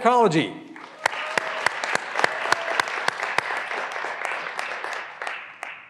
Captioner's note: graduands cheering and applauding